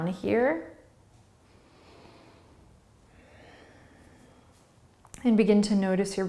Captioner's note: breathing